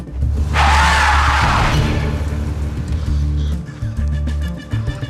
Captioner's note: suspenseful music; tires screech; suspenseful music